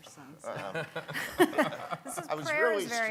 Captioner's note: laughing